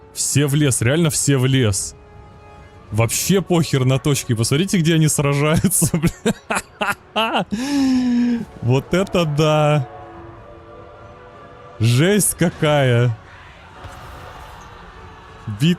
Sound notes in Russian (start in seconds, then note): 5.4 смех; 7.5 тяжело вздыхает